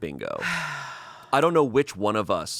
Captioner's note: sighs